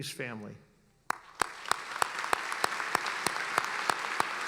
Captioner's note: applauding